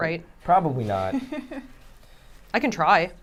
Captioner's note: chuckles